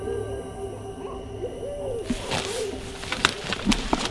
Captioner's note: distant animals